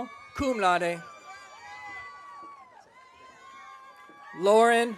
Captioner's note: audience cheering